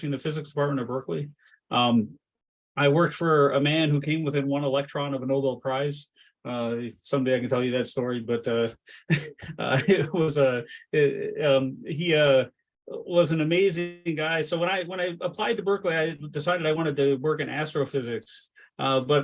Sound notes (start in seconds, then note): 9.0 laughs